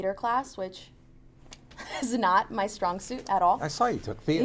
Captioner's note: laughs